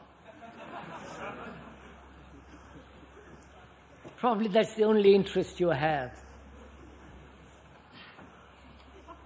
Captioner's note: laughter